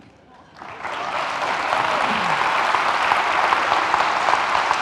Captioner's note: audience laughing; audience applauding